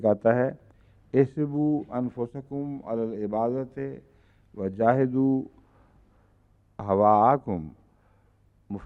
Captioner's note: Arabic